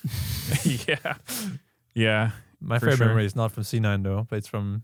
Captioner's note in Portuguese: risos